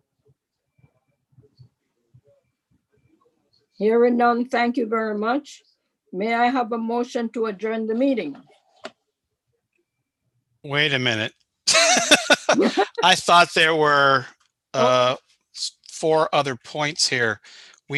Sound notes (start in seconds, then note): 11.7 laughs